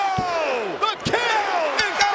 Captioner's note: bell ringing